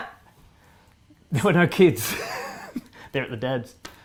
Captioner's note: laughs